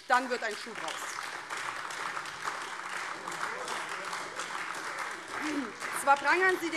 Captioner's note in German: Beifall AfD